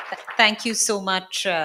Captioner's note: audience applauds